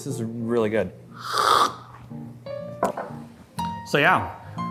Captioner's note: slurps